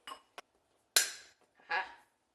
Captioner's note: snap